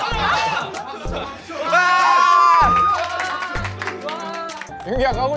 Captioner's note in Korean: 박수 박수